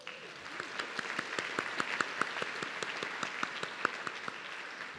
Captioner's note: audience clapping